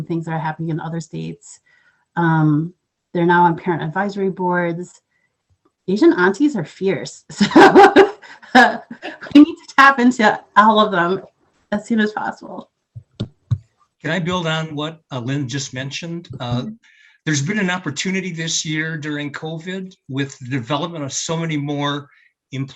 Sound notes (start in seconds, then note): 7.2 laughs